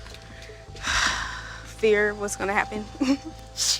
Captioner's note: sighs